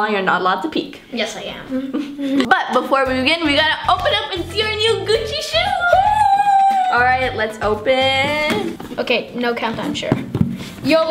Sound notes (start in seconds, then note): 5.3 cheering